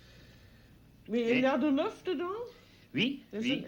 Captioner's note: speaking French